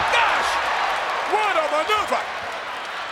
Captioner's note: audience cheers